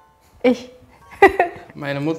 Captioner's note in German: Lachen